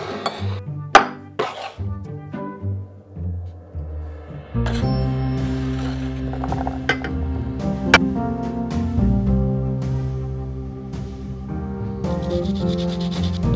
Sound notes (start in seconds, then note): 6.8 blueberries dropping; 12.2 zesting lemon